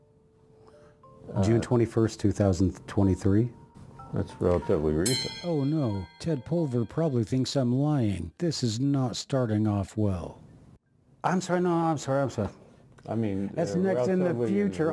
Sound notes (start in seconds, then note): 2.8 bell ringing